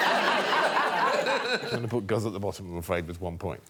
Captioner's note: laughter